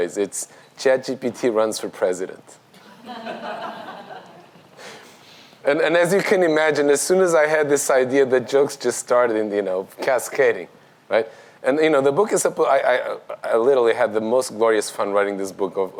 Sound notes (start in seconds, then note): 2.8 audience laughs